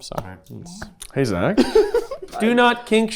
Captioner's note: giggling